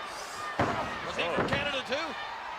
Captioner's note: foot stomps